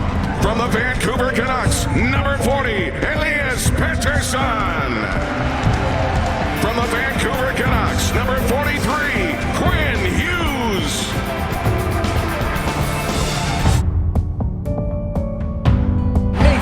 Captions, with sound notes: From the Vancouver Canucks, number 40, Elias Pettersson. (crowd cheering) From Vancouver Canucks, number 43, Quinn Hughes! (soft music)